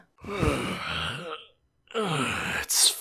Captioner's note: yawn